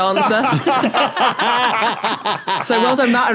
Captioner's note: others laugh heartily